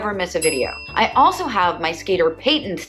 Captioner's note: bell dings